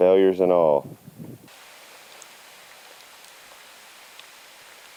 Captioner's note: bacon sizzling